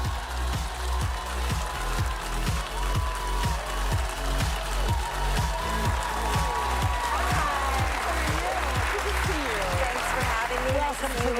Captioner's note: applause